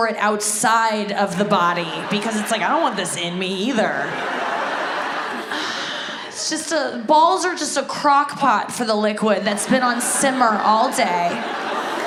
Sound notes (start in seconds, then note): 4.4 audience laughs; 5.4 sighs